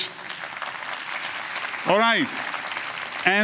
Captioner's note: applause